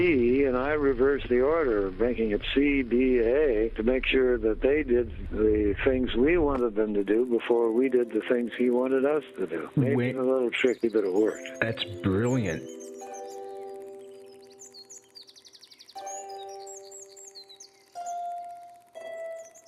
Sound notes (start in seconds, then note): 12.9 birds chirping; 12.9 gentle uplifting music